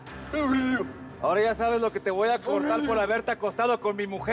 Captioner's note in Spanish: sollozos